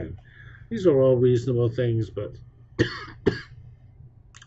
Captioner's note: cough